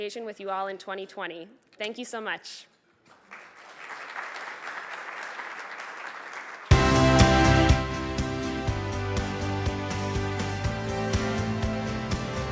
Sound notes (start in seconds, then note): 3.1 audience applauds; 6.7 bright music